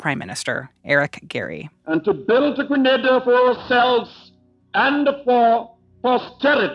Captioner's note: soundbite of archived recording